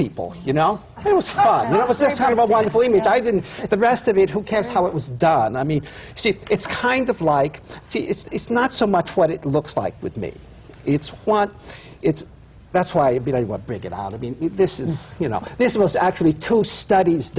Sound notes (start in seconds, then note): 1.0 laughter